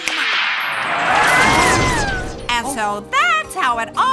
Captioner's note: magic chiming; triplets yelping